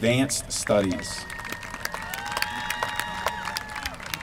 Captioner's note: applause